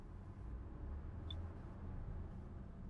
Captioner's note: none